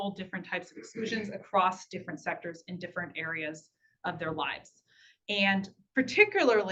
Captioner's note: clearing throat